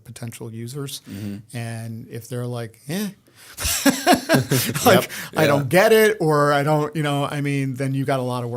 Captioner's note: chuckle